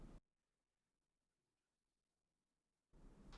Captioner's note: silence